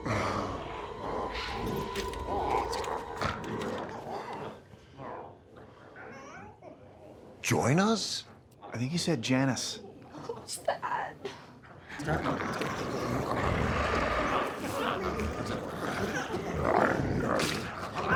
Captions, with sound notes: (glowzies growling) - Join us? - I think he said Janice. - Who's that? (glowzies growling)